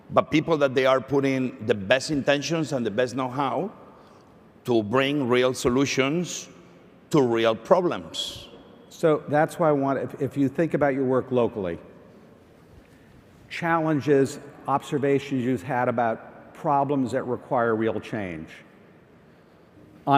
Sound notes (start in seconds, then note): none